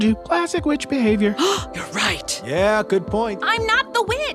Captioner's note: gasp